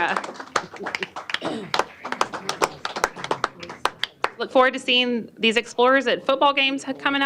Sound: applause

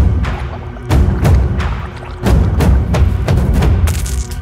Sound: gargling loudly

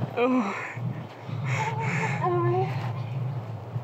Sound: Bo groaning

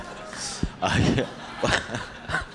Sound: laughter

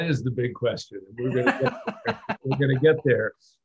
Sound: laughter

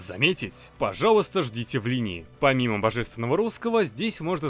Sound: very bad russian

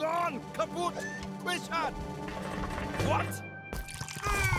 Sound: shouting

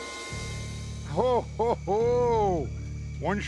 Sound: laughs

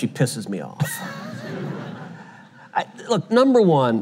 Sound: audience laughter

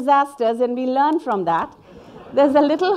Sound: audience laughing

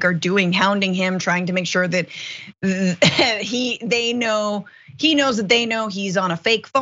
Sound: laugh

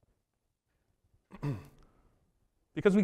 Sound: coughs

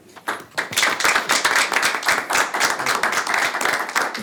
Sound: all clap

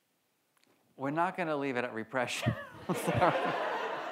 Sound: laughs; audience laughs

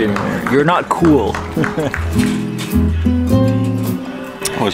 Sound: laughing

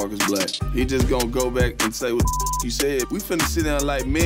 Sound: beep

